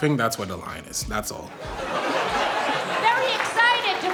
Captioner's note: audience laughter